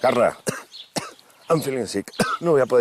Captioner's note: coughs